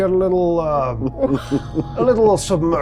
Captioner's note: chuckling